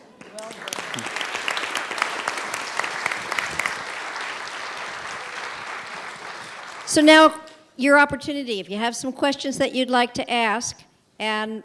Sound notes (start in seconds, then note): 0.0 applause